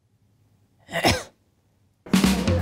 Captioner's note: coughs dismissively